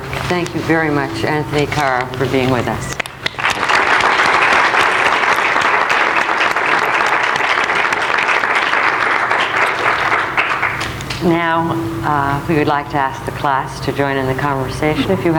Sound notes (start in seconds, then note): 3.0 audience applauding